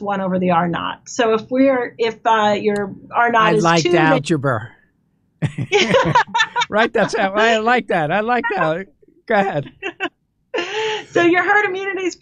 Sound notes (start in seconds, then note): 5.4 laughs; 10.0 laughter